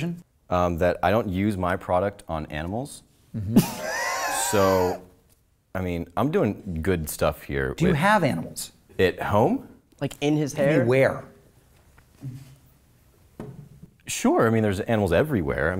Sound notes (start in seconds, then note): 3.4 laughs